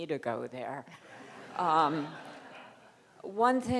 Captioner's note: crowd laughing